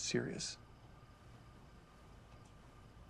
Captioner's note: none